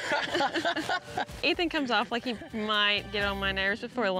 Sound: chuckling

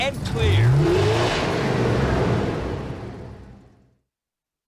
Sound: revving

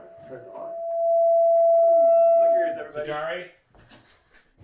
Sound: feedback blaring

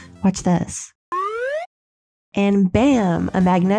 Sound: slide whistle

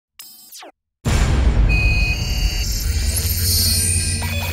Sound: electronic buzzing

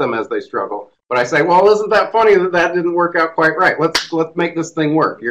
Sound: makes sound effect

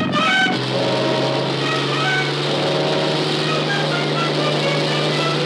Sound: helicopter whirring

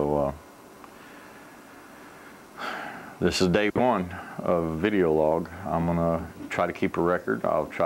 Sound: heavy breath

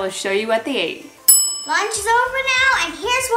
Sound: bell dings

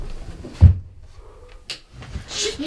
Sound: thump, thump; thump; light switch click

